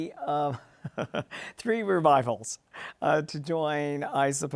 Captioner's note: laughs